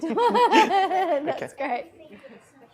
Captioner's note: laughs